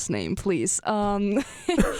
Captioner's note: laughs